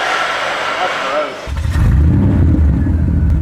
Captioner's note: roaring engine